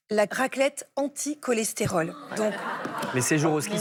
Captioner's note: laughter